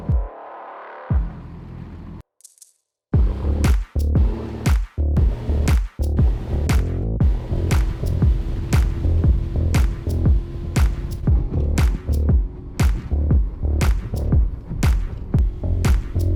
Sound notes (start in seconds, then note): 0.2 drum thumping; 2.4 rattle shaking; 7.1 water rushing; 11.6 upbeat music; 13.4 engine revving